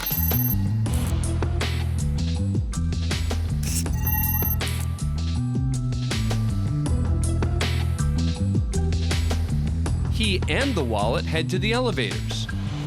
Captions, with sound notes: [beeping] [camera zooming] [beeping] He and the wallet head to the elevators,